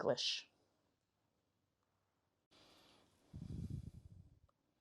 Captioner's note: pauses 6 seconds